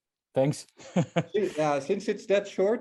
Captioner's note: laughs